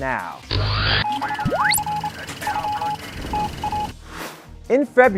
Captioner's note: sound Effects